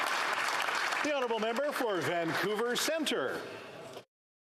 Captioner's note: some Applause